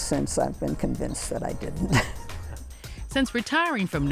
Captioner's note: laughs